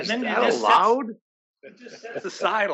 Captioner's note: laugh